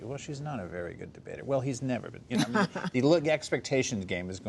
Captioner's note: laughs